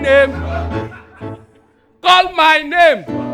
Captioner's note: audience laughing